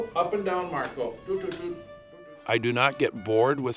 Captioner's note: vocalizes